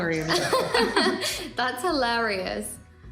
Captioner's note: laughs